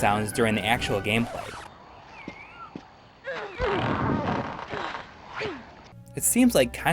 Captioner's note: game audio